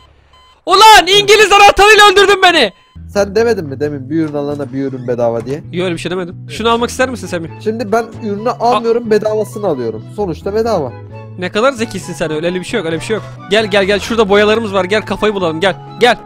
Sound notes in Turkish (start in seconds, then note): 0.6 Bağırarak